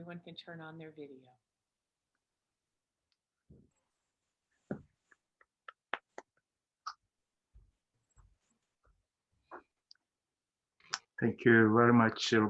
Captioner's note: applause